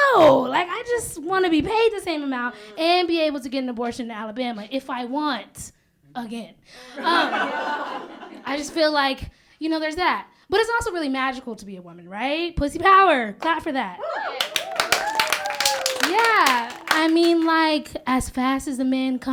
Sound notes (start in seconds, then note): 6.9 laughter; 14.3 applause